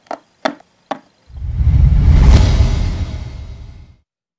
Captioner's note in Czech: Majestický zvuk teleportace